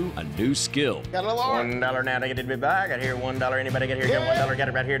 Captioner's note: speaks fast as auctioneer